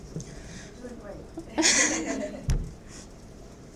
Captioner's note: laughs